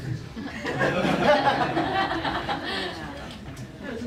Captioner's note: laughter